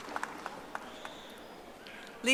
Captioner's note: audience applauding